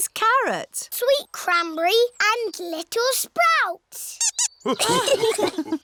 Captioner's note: squeaks; laughter